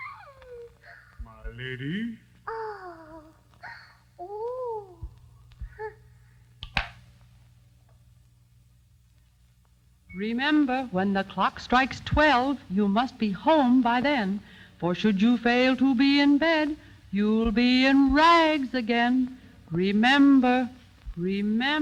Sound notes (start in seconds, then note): 6.6 door thuds